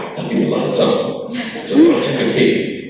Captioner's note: crowd laughs